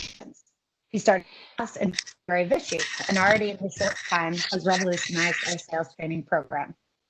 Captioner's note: audio is choppy